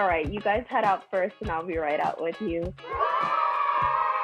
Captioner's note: children boo